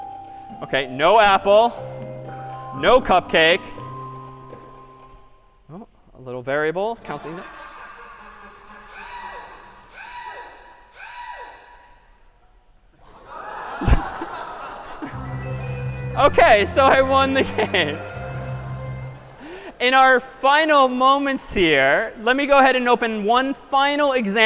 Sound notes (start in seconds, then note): 8.8 screaming; 13.1 laughter